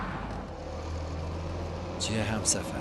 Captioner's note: none